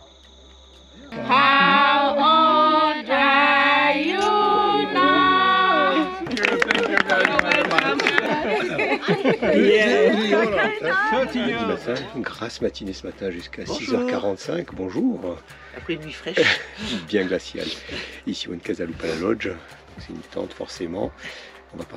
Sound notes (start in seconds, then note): 0.8 singing; 6.0 applause